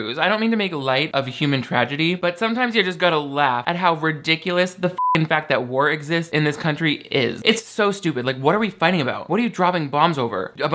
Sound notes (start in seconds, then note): 4.9 beep